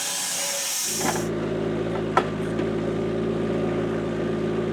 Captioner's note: vehicle rumbling